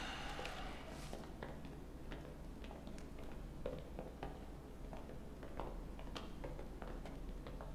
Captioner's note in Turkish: Ayak sesleri